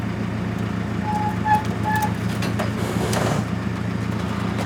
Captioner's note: metal creaking